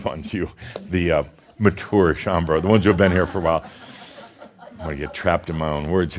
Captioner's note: some chuckles